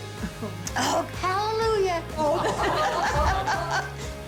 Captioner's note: laughter